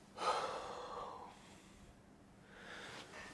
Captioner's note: Montoya sighs